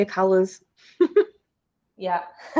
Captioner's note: woman giggling